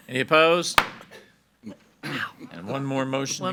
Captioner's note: gavel bangs